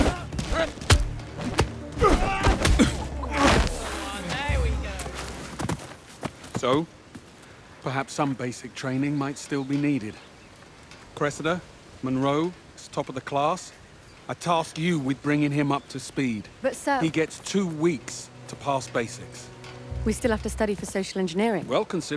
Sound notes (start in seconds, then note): 2.0 screaming